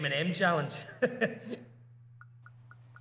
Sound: awkward chuckle

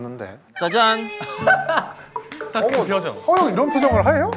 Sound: laughs

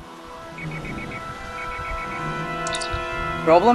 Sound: comm Alert

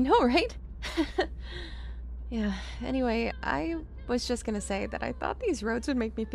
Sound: laughs

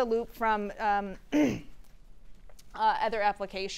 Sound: clearing voice

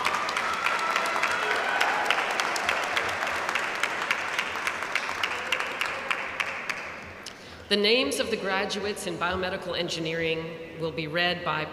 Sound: applause

